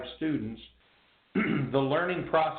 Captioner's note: clears throat